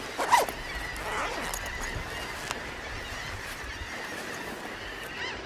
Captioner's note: bird sounds